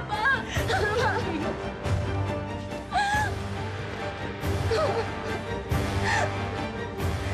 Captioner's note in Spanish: sollozos